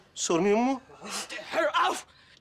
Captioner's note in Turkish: Almanca konuşma